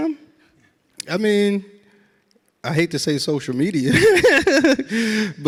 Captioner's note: laughs